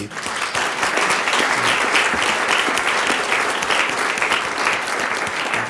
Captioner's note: audience clapping